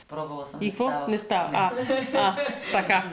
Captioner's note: they both laugh